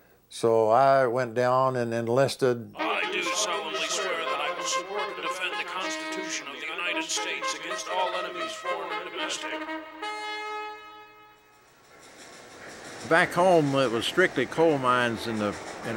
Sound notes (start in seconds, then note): 3.5 voiceover